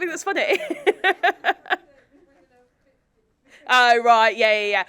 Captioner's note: laughs; voice speaking faintly due to distance